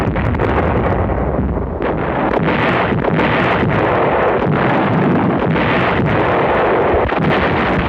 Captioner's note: Sound of artillery barrage opening the Allied offensive at Anzio